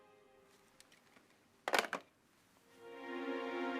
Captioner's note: phone thumping; gentle music